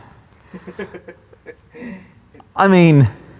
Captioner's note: laughing